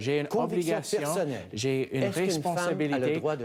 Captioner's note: speaking French